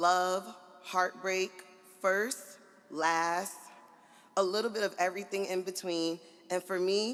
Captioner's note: none